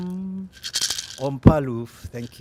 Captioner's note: speaking native language